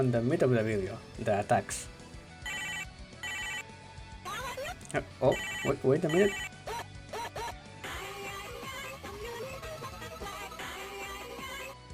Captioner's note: phone rings